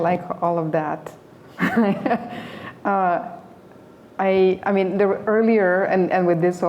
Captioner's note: laughter